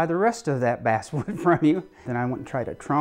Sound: laughs

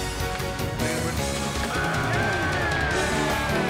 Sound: men cheering

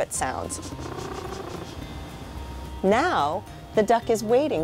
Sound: sniffling

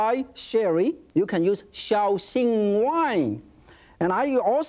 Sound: in foreign language

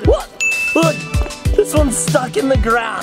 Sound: ding

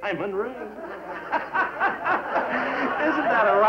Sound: laughs

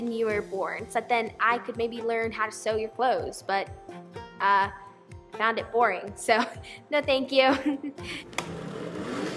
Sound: giggle

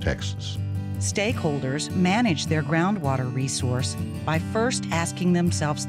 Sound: voiceover

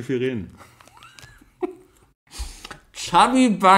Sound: laughs

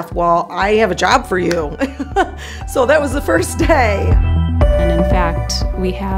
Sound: laughter

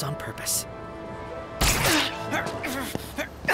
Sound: grunts

